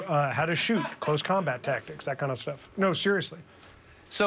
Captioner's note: none